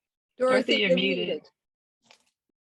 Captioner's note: multiple Voices